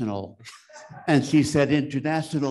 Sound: attendee laughs

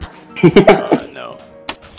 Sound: heheh

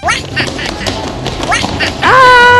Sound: Minions laugh

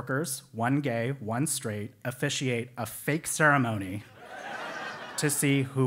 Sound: laugh

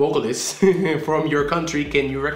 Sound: laughing

